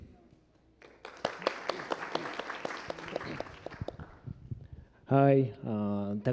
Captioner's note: applause